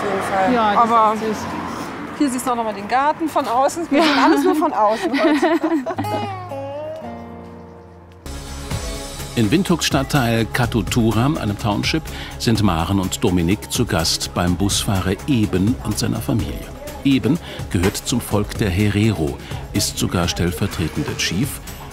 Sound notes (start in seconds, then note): 3.9 laughter